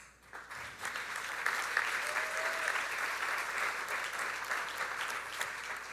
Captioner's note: audience applauding; audience cheering